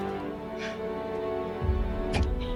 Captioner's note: spits out blood